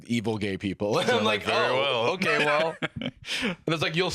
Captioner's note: laughs